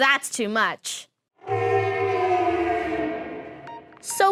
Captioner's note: fading deep tone